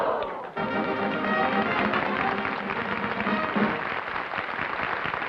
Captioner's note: applause